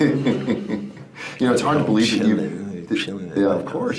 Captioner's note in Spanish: risas